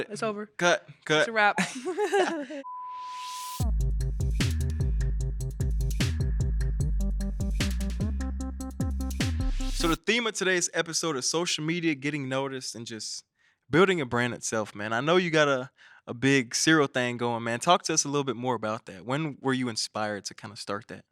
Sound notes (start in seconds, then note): 1.6 all chuckling; 2.6 beep; 4.2 upbeat music